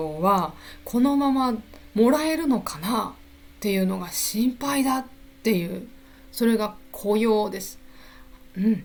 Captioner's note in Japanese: 咳払い